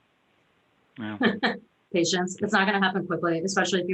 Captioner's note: laughs